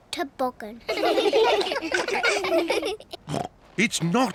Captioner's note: all laugh; snorts